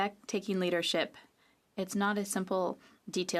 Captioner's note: speaking French